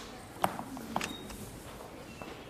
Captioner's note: door opens